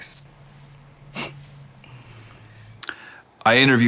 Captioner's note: laughs